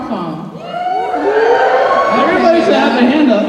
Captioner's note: cheers